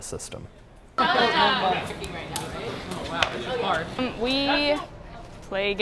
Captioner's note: laughing and chatter